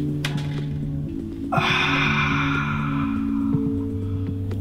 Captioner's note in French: Matt soupire d'aise